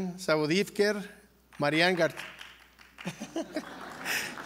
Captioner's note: laugh